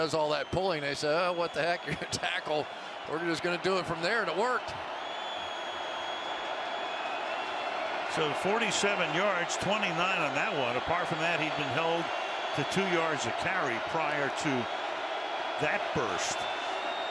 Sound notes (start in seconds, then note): 5.8 cheering